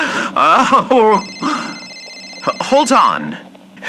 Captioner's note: phone rings fx